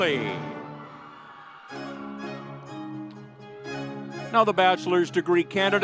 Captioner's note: audience cheering